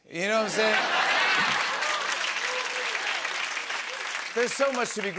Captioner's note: cheers and applause